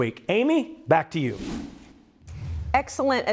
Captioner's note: air whooshes